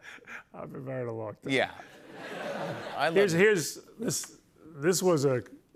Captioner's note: laughter